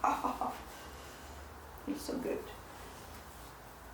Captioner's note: laughing